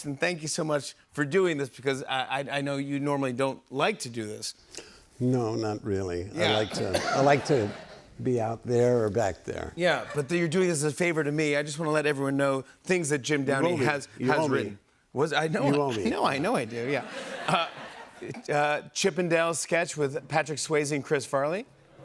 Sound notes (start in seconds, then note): 16.8 laughter